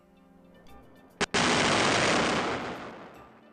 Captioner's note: explosion